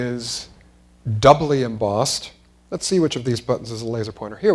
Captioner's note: none